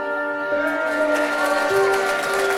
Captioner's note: audience applauds; audience cheers